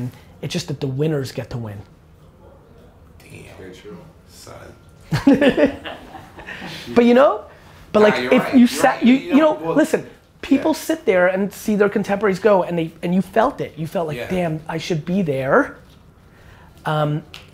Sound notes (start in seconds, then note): 5.1 group laughter